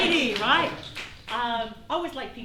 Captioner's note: applause